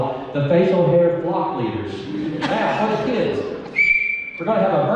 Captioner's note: whistle blows